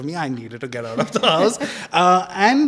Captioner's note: laugh